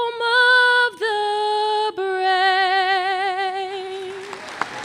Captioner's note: applause